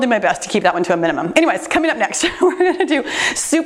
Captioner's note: laughs